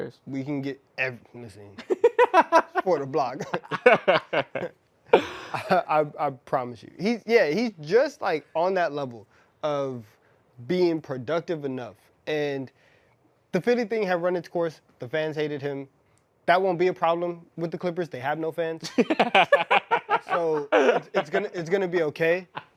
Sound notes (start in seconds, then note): 5.2 laughter